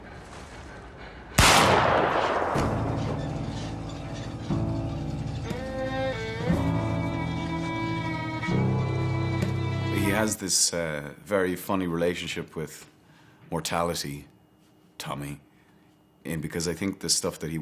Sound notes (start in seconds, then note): 1.3 gun shoots; 2.4 foreboding music